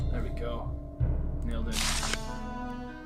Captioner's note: page turning noise